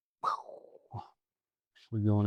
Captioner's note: sighs